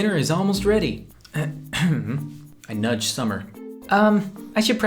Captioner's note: ahem